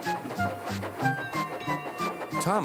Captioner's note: clang clang